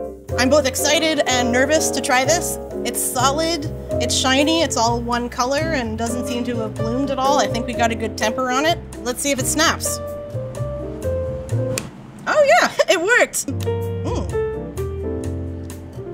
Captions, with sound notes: I'm both excited and nervous to try this. It's solid, it's shiny, it's all one color, and doesn't seem to have bloomed at all. I think we got a good temper on it. Let's see if it snaps. [soft music] [chocolate snapping] Oh yeah, it worked. [soft music]